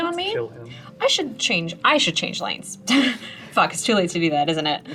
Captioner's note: laughs